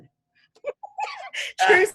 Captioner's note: laughs